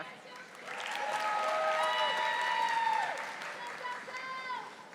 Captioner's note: audience applauding